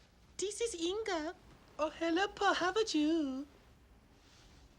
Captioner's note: swedish Accent